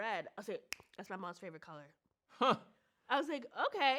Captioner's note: snaps fingers